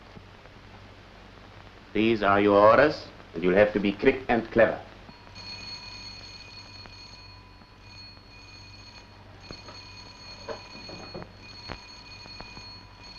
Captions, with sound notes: These are your orders, and you'll have to be quick and clever. (Bell rings)